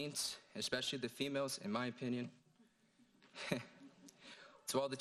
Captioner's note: laughing